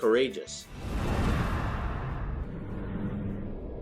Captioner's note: whoosh